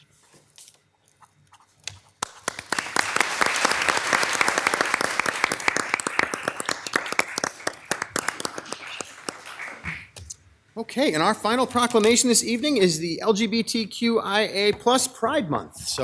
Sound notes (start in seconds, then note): 1.8 pen scratching; 2.2 all applauding